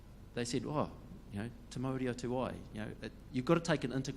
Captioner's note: speaks in foreign language